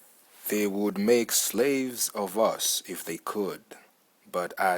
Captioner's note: imitation of Red Indian